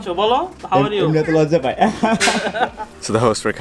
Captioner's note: laughs